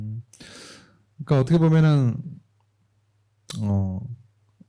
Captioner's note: speaking korean